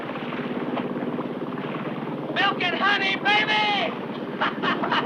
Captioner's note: laughs